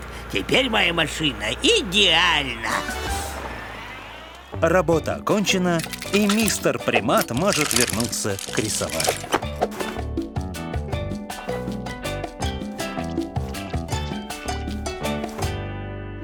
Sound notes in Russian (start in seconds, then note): 3.2 задний ход; 10.6 весёлая музыка